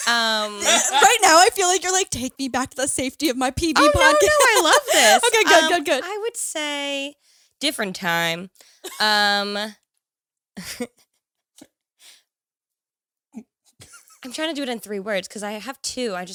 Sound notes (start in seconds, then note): 9.7 laughs